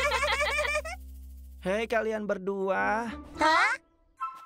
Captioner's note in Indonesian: terkekeh; suara pria